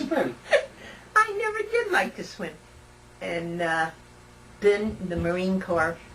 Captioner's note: laughter